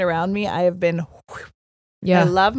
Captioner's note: blowing air